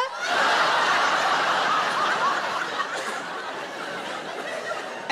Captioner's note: audience laughing